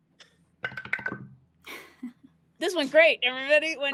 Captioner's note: dice roll